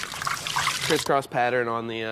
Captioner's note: water splashing